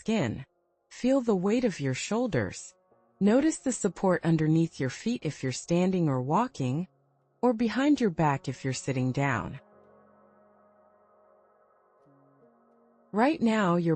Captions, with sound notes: skin. Notice the weight of your shoulders. Feel the ground supporting your feet if you are standing or walking, or the support behind your back if you are seated. [pause]